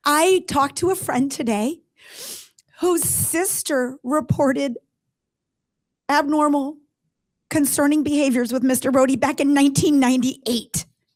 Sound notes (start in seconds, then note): none